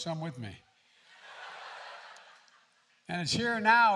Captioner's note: laughter